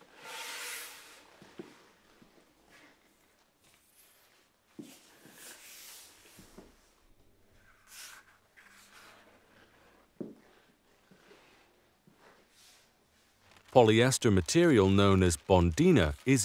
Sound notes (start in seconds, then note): 0.2 wood scratching; 4.8 blotter scratching